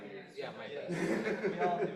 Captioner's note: chuckles